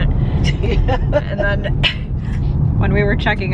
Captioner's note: laughs